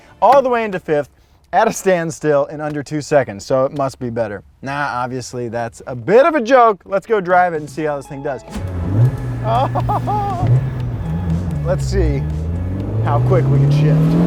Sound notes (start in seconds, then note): 8.5 engine revs; 9.4 laughs